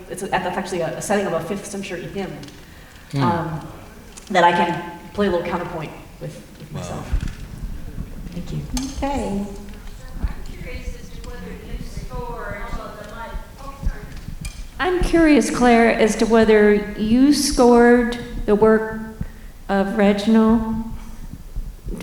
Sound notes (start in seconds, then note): none